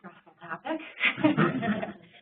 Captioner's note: laughter